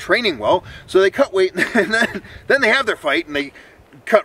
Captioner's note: chuckles